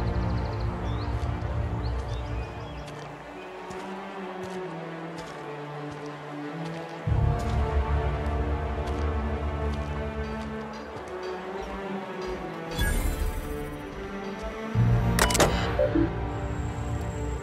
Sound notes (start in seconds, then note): 12.6 woosh; 15.1 futuristic computer sounds